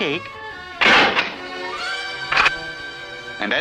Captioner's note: door Closes & then locks